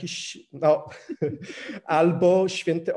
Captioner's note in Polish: śmiech